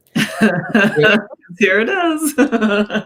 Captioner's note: chuckles